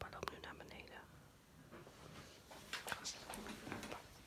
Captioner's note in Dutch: gestommel